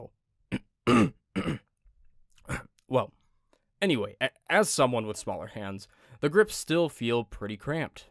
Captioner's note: clears throat